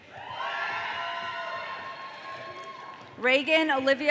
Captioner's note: audience cheering